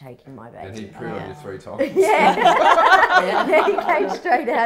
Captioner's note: all laughing